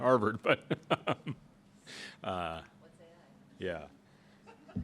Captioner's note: laughs